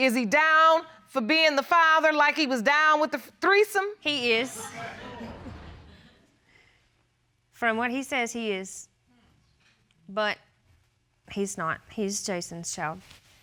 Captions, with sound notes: Is he down for being the father like he was down -with the threesome? -He is. [chuckles] From what he says, he is. But he's not. He's Jason's child.